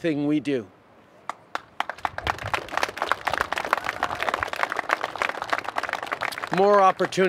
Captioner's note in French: Applaudissements